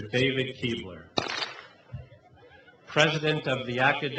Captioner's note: clap